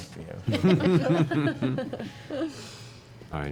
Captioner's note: laughter